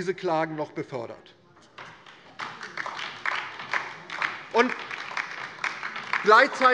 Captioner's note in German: Beifall DIE LINKE